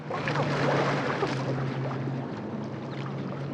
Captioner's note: water splashing